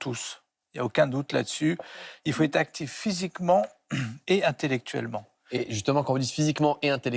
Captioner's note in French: raclement de gorge